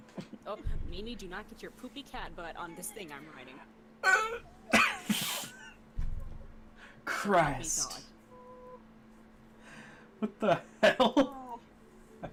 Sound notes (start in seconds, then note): 5.0 making noises of disgust and amusement